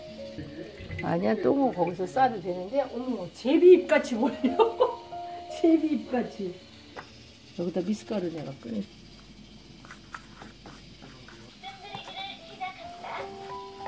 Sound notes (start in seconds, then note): 4.4 laughing